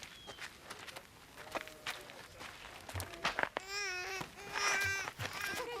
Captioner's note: baby crying